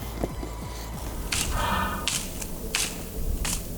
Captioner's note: heavy breathing and raking